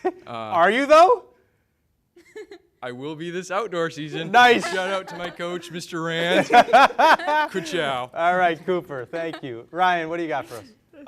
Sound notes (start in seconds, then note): 2.2 giggles; 4.1 laughs